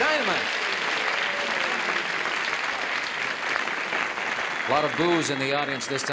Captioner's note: applause